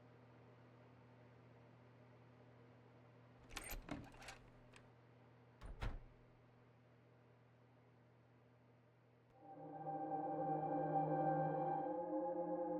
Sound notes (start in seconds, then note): 3.8 door squeaks; 9.4 gentle music